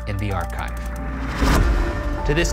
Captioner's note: gate slamming